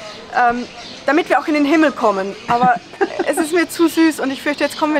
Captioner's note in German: lacht